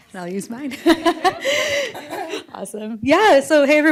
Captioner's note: laughs